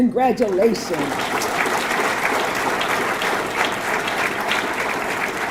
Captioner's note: audience clapping